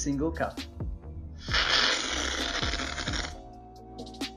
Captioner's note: slurping